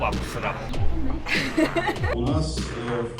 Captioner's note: laugh